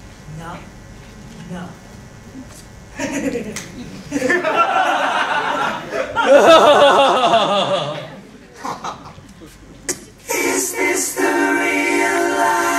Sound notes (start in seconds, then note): 4.1 laughs Mockingly; 6.6 evil Laughter